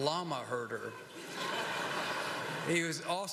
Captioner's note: laughter